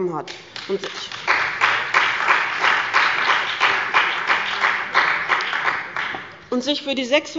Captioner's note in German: Beifall bei dem BÜNDNIS 90/ DIE GRÜNEN und der CDU